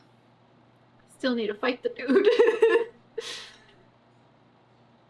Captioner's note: laughs